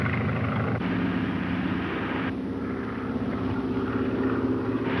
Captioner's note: car engine roaring